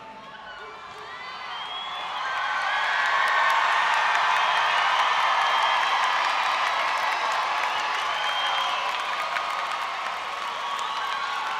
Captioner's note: crowd Cheering